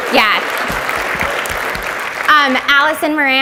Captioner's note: audience applauds